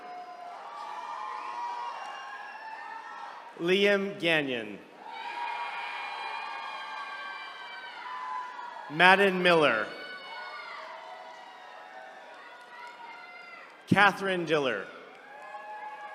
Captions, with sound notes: (attendees cheering) Liam Ganion. (attendees cheering) Madden Miller. (attendees cheering) Katherine Deller.